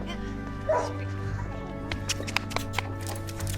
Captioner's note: dog barks